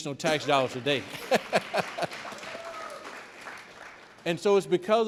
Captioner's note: audience clapping